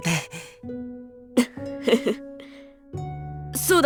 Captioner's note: chuckle